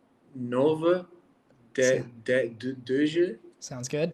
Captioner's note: Pieter speaking in foreign language